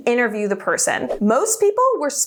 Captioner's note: air whooshing